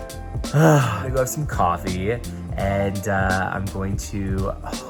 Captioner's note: sighs